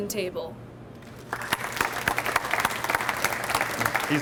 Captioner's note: audience applauds